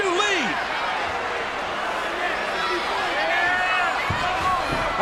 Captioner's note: crowd chattering